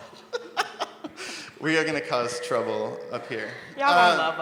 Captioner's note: laughs